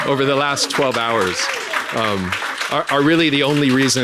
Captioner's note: audience applauding